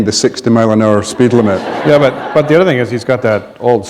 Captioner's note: laughter